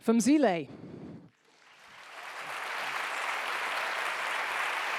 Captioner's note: audience applauding